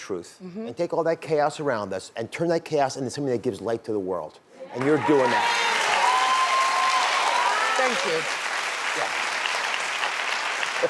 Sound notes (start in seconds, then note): 6.6 audience applause